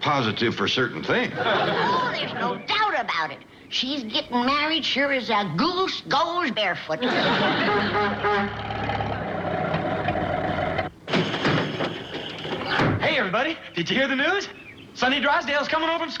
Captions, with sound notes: till it was a positive for-certain thing. Oh, there's no doubt about it. She's gettin' married sure as a goose goes barefoot. (horn honks) Hey, everybody, did you hear the news? Sonny Drysdale's coming home from school.